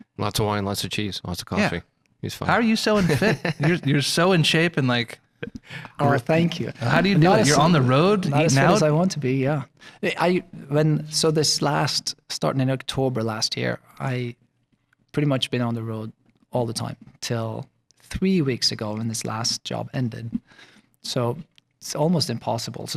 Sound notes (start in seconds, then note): 6.1 laughing